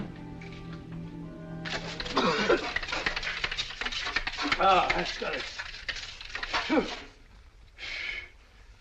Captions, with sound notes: [coughing] Now, that's got it.